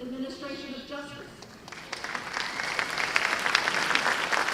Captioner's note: applause